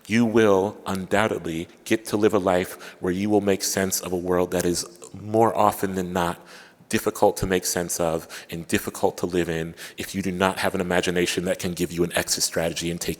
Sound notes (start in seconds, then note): none